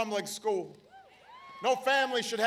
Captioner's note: applause